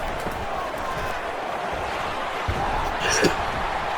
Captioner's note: crowd Noises